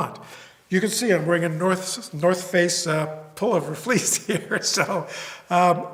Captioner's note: laugh